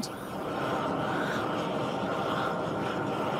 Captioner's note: hissing